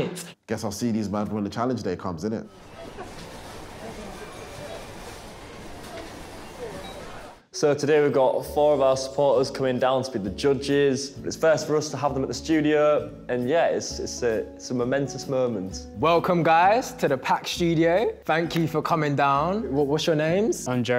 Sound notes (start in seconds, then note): 7.3 beeping; 7.3 chattering